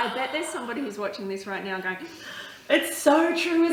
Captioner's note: holds breath